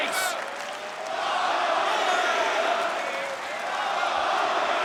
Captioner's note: crowd chanting